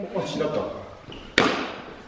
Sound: tap

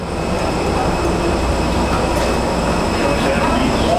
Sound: plane engine noises

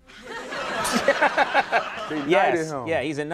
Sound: audience laughing

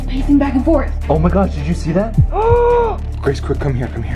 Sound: gasps

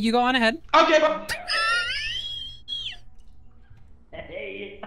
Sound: laughs

